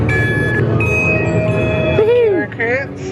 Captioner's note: people chattering; machine beeps